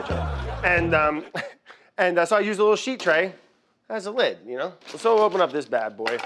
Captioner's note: laughs